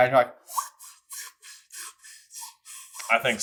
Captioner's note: woosh whew woosh whew whoosh whew whoosh whew